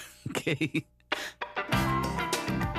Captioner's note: laughs